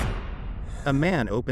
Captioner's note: man inhales